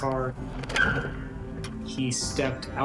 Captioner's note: tires screeching